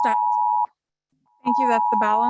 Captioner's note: timer beeping